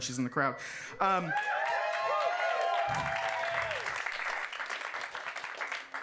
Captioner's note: audience cheering and clapping